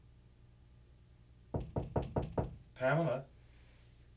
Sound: soft knocking

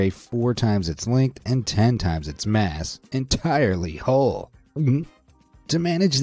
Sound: gulps

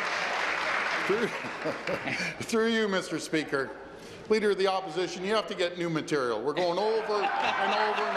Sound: applause

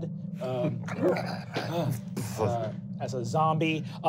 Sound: growling

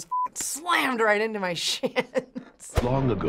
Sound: chuckles

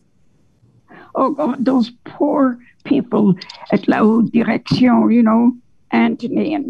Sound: speaks French

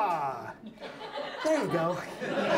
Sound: audience laughs

